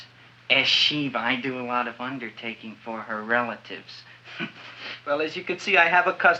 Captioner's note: chuckles